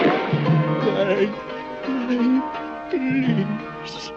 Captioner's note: sobbing